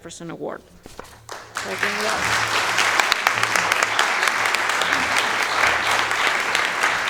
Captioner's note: audience applauding